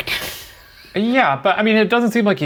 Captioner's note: laughing